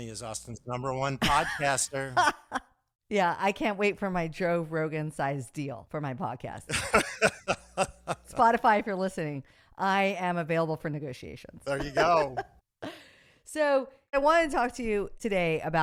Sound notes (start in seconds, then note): 6.7 laughing; 11.7 laughs